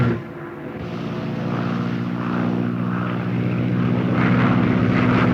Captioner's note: airplanes buzzing